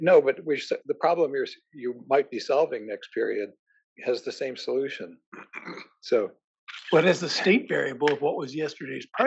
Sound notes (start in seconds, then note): 4.8 cough